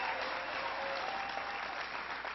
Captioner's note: applause